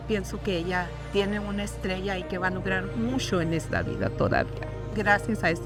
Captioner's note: speaking in Spanish